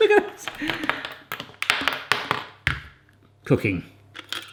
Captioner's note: laughing; plastic banging